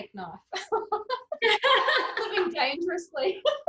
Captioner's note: both laughing